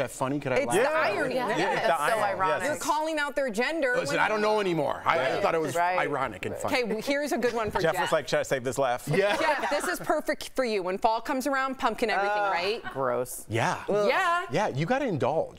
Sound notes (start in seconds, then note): 5.0 laughter